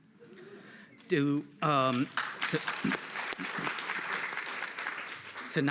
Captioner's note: audience applauds